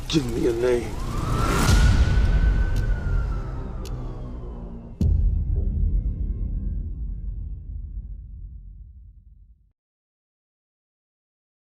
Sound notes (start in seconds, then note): 0.2 police sirens